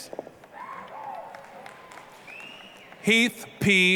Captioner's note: applause, cheering